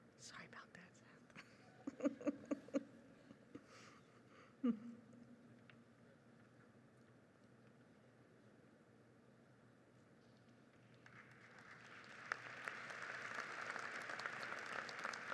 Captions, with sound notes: Sorry about that, Seth. (audience applauds)